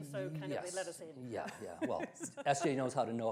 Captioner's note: laughs